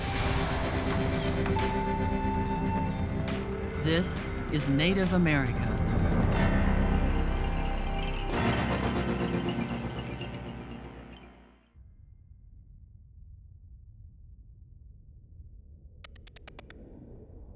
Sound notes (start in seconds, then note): 15.3 computer keys clicking